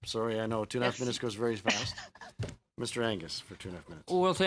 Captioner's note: speaking French